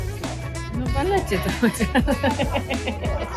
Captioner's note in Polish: śmiech